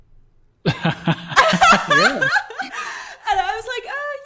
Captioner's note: laughing